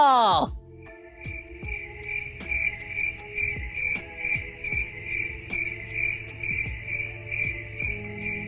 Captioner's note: crickets chirping